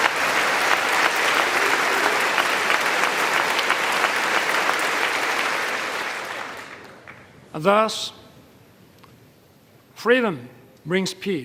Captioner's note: applause